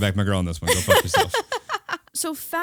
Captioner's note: laughing